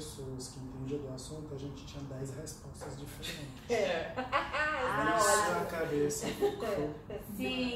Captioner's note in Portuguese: risos